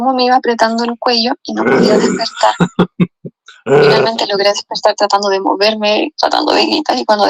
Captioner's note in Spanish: carraspeo; risas